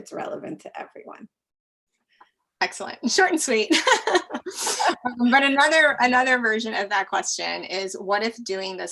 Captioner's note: laugh